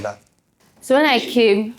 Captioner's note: laughs